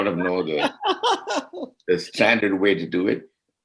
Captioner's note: laughing